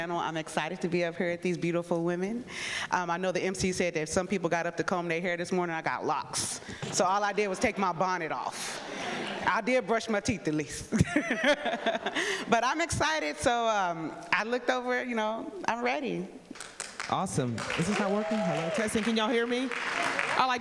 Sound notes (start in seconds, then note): 11.9 laughs